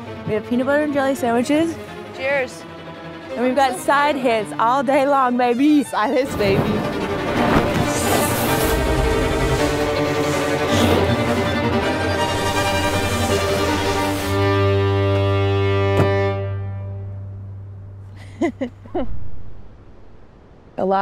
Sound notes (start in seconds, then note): 7.4 dramatic music continues; 16.0 tailgate lock clacks; 18.1 both laughing